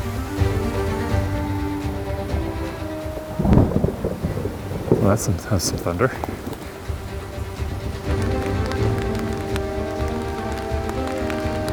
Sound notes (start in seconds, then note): 3.5 thunder rumbles; 8.7 rain pattering